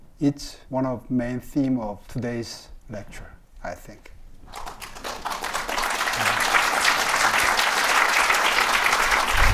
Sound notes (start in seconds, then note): 4.5 audience applauding